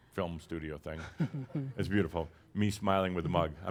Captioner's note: chuckles as the camera zooms in on his mug